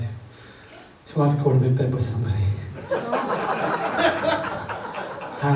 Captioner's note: audience laughs